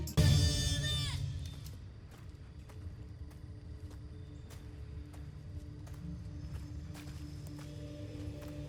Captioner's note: crickets chirping in distance; mysterious music playing